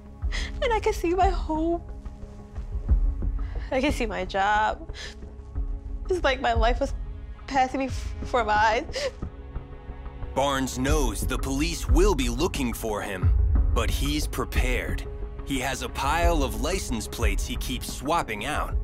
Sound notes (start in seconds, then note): 8.8 sob